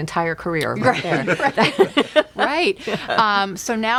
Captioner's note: laughing